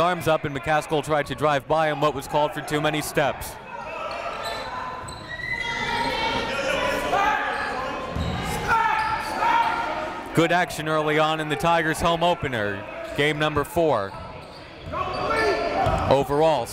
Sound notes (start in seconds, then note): 4.0 coaches yelling; 4.0 crowd talking